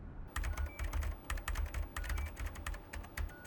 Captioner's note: keys clicking